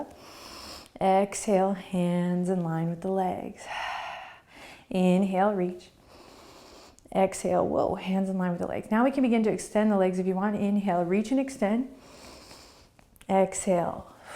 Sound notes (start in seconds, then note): 0.2 inhaling; 3.6 exhaling; 6.0 inhaling; 12.1 inhaling